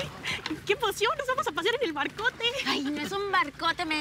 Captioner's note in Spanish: Risas